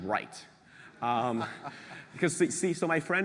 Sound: laugh

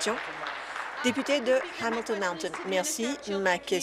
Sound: applause

